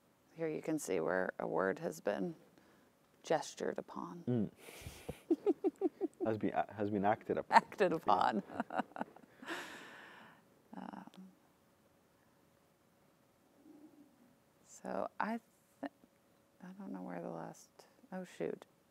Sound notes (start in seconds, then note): 8.2 laughs